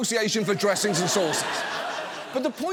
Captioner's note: audience laughs